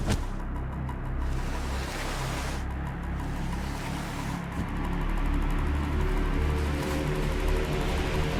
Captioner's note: body thud; body dragging